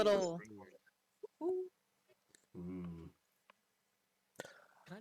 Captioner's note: imitates coo-coo clock